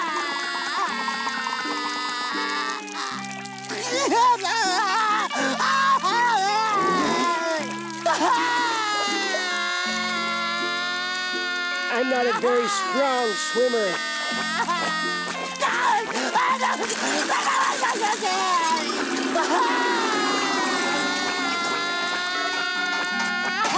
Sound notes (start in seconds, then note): 0.2 crying; 13.7 crying